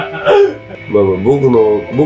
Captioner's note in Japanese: 笑い声